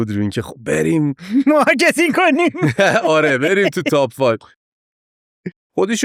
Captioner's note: laughs